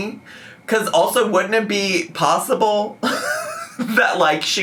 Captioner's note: laughs